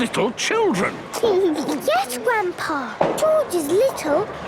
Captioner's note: giggles